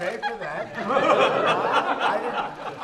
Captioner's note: laughter